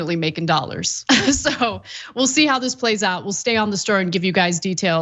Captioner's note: laugh